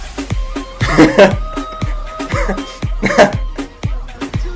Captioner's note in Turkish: Gülüyor